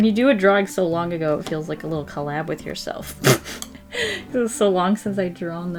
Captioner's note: laughs